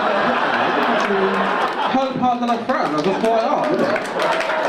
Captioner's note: audience laugh and cheer